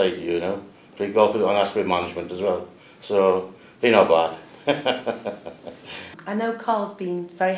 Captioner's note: laughs